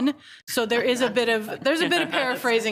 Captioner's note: speaks faintly